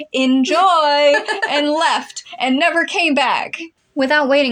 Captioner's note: laugh